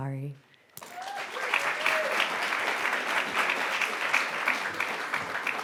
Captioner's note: audience applauding and whooping